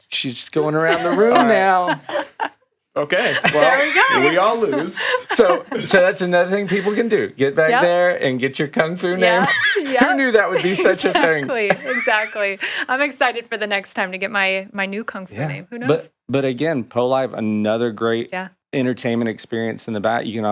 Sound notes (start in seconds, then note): 0.9 chuckling; 3.0 laughs; 9.2 chuckling